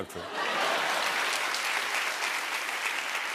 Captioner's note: laughter and applause